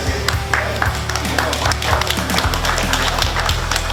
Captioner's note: audience claps